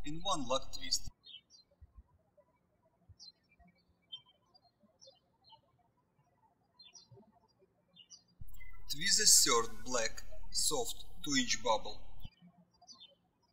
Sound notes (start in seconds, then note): 2.2 birds chirping